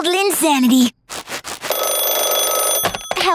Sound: ringing

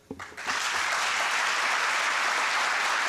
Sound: applause

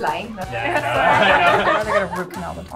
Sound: laughing

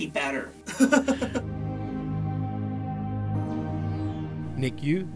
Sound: voiceover

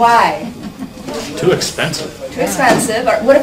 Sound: voiceover

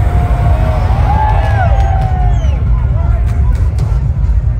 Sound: cheering for fire poofing

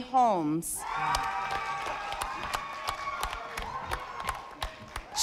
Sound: audience applauding

